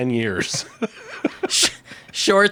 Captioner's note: laughing